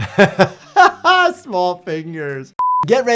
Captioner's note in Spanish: persona riendo